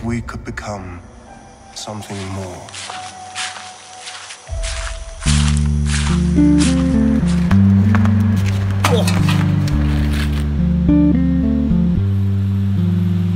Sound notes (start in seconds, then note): 2.9 potato walking sound